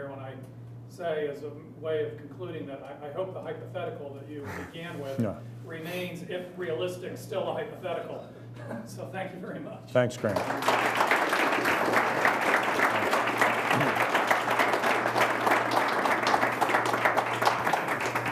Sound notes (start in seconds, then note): 8.2 chuckling; 10.2 applause